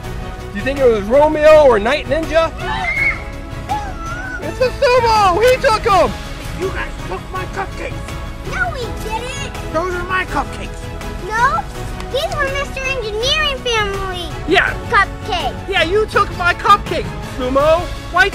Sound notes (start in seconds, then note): 2.6 screams